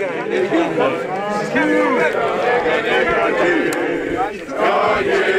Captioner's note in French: Cri d’équipe